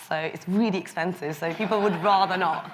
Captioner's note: audience laughs